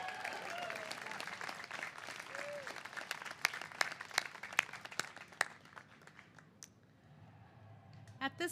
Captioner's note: cheers and applause